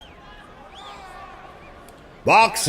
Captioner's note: crowd shouting